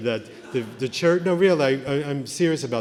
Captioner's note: laughter